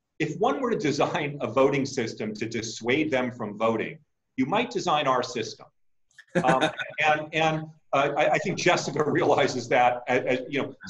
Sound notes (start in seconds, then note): 6.3 laughing